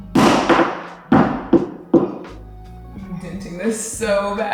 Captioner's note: hammer banging